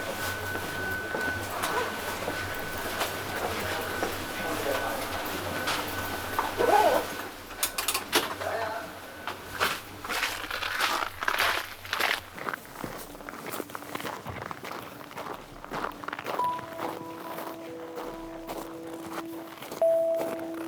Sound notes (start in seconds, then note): 8.2 door clicks; 9.7 footsteps clacks; 17.9 gentle music